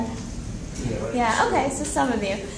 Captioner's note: people agreeing